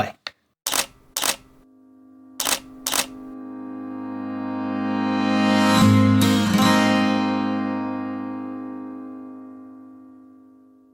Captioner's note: camera shutter sounds and music swells